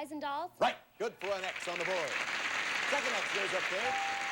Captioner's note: audience applauding